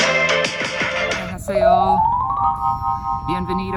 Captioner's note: musical note blings near bottom